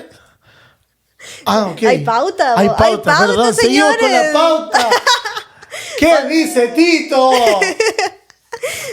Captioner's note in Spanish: risas